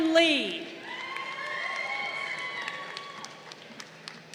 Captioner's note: crowd cheering